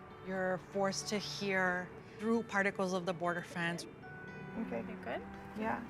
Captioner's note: none